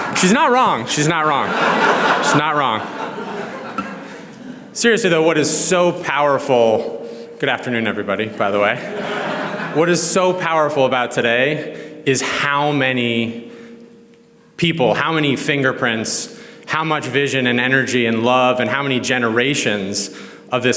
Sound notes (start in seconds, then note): 0.0 audience laughs; 8.7 audience laughs